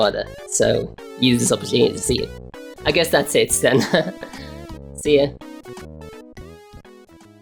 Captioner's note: laughs